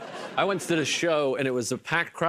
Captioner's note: laughter